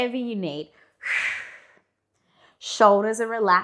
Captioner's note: breathing sharply